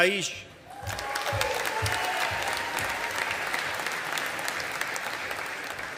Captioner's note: audience applauding